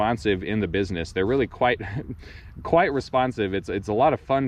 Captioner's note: chuckles